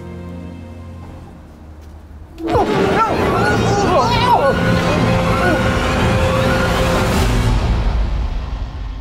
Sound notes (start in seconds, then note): 2.5 yelling; 2.7 grunts; 5.1 intense music